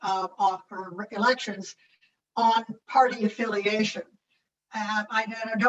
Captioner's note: audio distorts